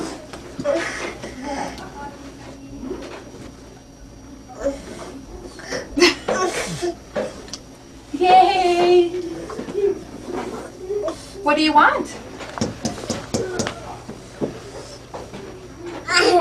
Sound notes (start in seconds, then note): 1.0 panting; 13.0 thudding